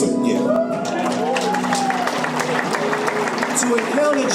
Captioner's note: audience cheers and applauds